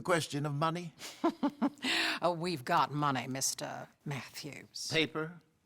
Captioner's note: laughs